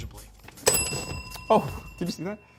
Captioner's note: bell dinging